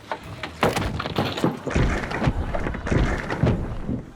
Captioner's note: shushana thuds, clatters